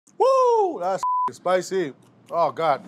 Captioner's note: beeb